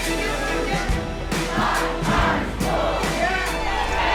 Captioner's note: crowd